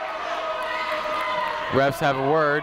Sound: people shouting in the crowd

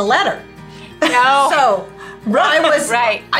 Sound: laughing

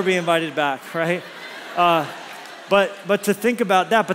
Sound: congregation laughs

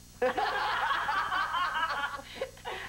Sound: laughter

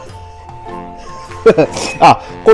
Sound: laughs

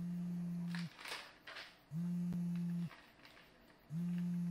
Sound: paper rustling

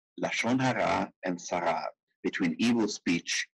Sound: speaking in foreign language

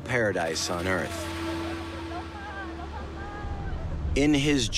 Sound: woman shouting in the distance

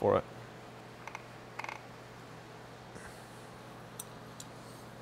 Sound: engine creaking

